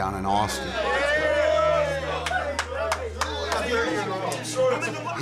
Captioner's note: players shouting